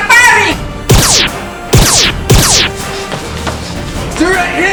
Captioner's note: laser noises